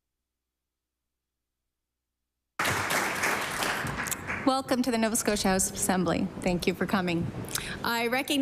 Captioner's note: applause